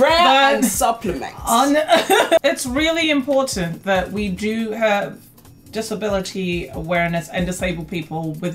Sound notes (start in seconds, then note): 1.8 laughs